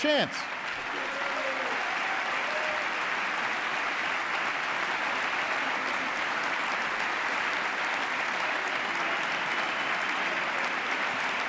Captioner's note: applause